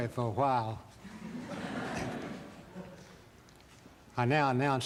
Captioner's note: laughter